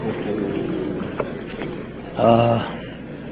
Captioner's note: crowd murmurs